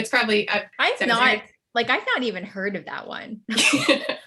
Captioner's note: laughs